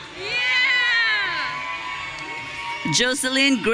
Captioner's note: audience cheering